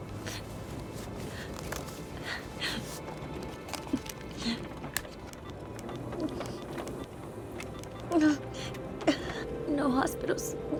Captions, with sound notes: [BEEPING] No hospitals.